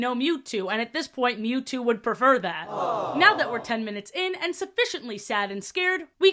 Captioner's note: crowd "aww" sfx